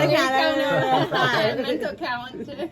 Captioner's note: laughing